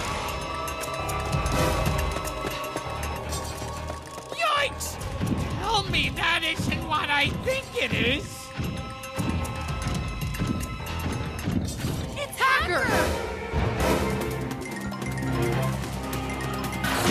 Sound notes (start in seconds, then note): 10.6 transformed hacker heavy footsteps